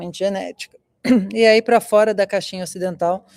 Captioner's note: clears throat